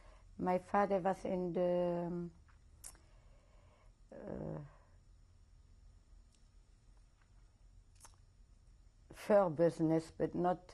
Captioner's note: pauses for 7 seconds